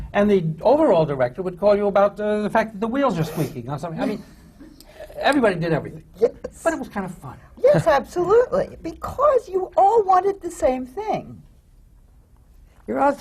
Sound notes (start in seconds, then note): 5.9 laughs